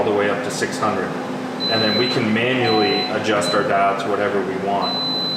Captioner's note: beeping